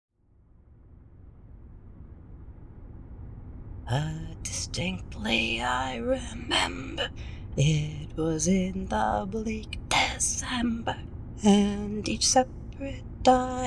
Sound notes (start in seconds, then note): 0.8 driving ambience; 4.6 singing